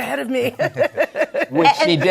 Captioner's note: laughs